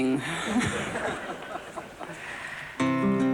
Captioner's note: laughter